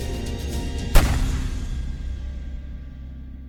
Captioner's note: gun firing